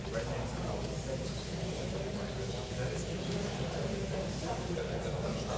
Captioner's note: audience chattering